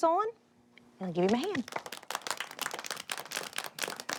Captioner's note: applause